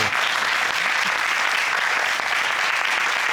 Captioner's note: crowd applauding